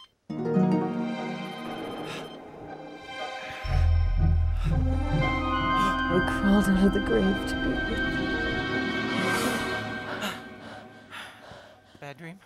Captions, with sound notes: (eerie instrumental music) - I crawled out of the grave to be with you. (gasping)